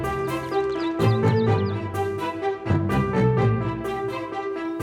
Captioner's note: birds chirping